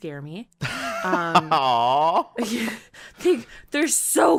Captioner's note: laughs